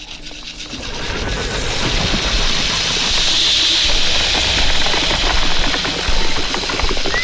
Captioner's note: snake growls; snake screeches